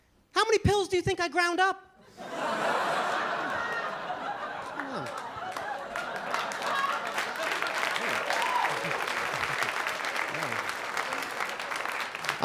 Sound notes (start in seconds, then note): 2.0 laughter; 6.7 applause